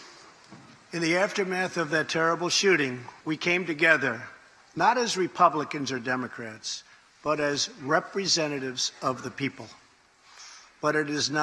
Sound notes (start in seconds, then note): none